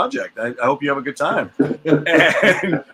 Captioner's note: laughs